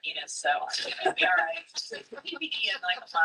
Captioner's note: laughs